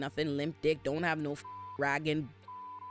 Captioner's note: beep